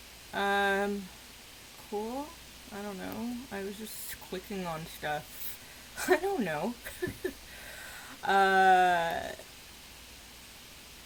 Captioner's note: awkward laughter